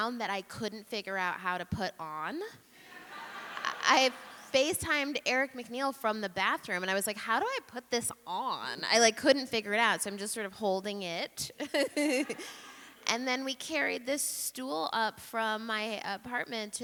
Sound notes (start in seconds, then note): 2.9 audience laughing; 11.6 chuckles